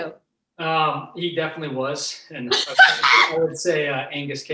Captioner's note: laughing